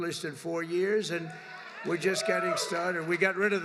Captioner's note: applause